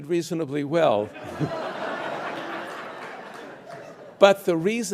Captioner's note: audience laughing